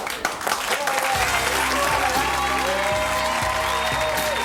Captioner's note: audience applauds; lighthearted music